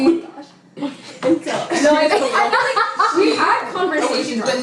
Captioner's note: laughs